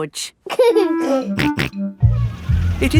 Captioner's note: giggling and snorting